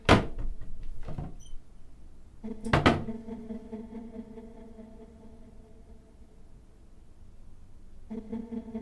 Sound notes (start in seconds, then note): 0.1 door thuds